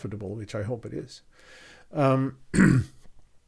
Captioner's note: clears throat